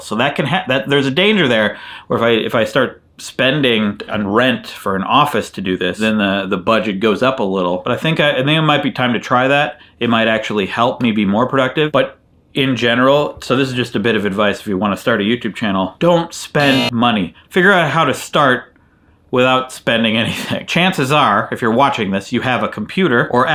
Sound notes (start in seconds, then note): 16.6 buzzer sounding